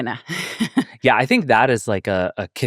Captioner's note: laughing